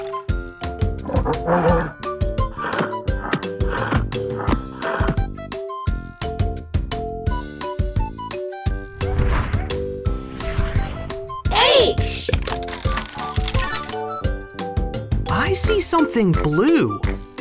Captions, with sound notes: (gorilla roars) H! I see something blue.